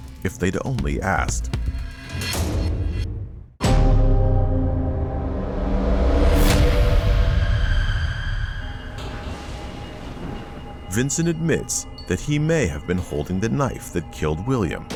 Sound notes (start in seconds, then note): 4.2 dramatic music; 8.7 tense music; 8.7 thunder rumbling